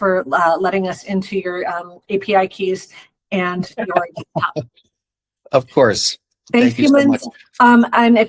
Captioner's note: laughs